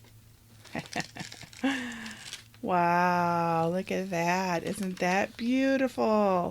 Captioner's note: laughs